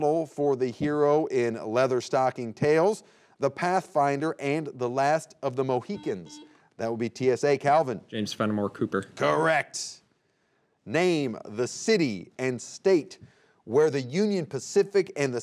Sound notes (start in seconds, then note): 5.9 buzzer beeping